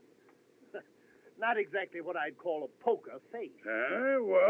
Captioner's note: chuckles